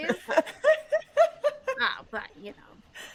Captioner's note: chuckling